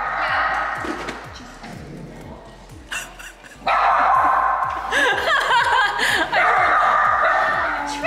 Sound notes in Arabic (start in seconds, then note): 2.8 ضحك